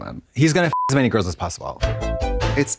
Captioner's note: beep